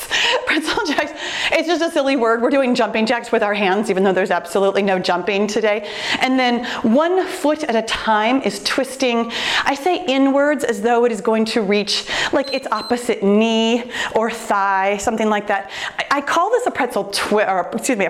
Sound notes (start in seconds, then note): 0.2 laughs; 12.3 timer beeps